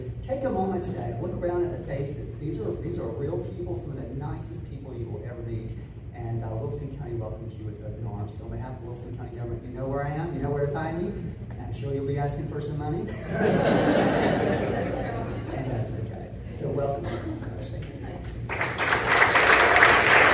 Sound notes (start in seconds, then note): 13.1 laughing; 18.4 applause